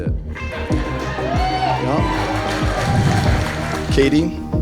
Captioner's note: guests cheer and applaud